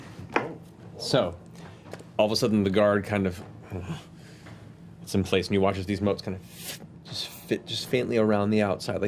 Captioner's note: grunts